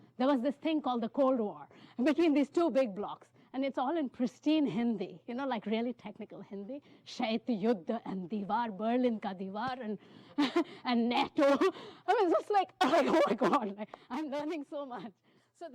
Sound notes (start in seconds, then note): 7.2 speaking hindi